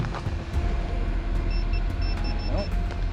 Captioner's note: beeping